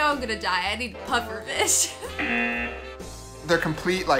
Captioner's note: laughs; buzzer